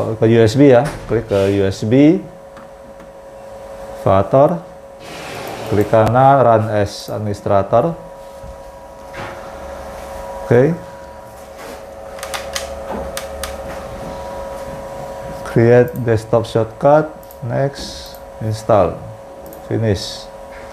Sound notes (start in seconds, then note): 4.9 clicking sound; 12.0 tripod noise